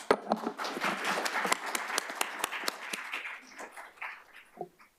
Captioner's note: applause